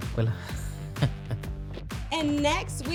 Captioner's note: chuckling